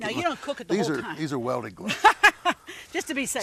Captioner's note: laughing